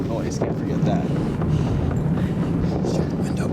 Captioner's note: loud rumbling from speakers